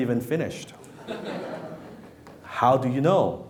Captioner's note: crowd laughs